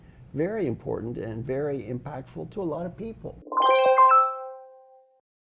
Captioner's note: electronic_bell_sound